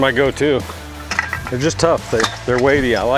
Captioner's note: metals clanking